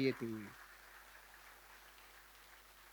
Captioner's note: rounds of applause